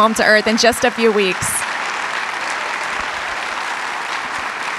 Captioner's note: audience clapping